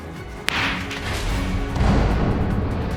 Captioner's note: gavel bangs